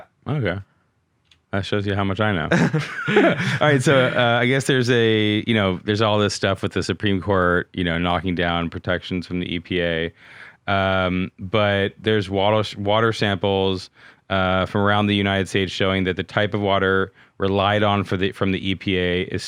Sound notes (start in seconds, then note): 2.5 laughing